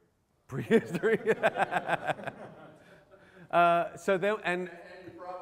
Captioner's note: laughter